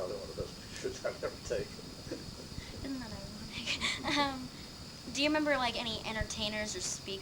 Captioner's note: chuckles